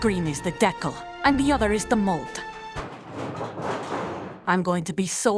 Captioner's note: metal crashing noises